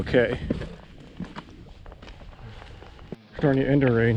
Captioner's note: footsteps thumping